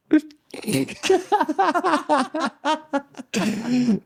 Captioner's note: laughing